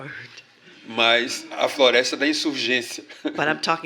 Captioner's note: speaking portuguese